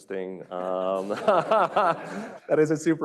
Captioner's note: laughter